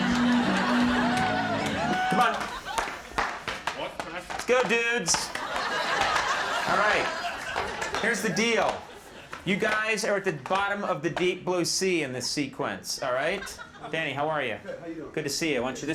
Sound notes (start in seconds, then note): 0.0 audience laughing; 5.0 audience laughing